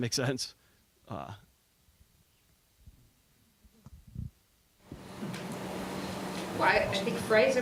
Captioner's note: silence